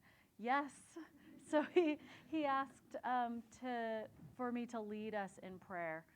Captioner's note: chuckles